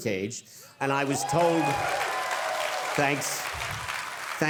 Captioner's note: audience cheering